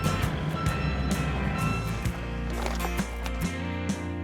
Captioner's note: beeping sound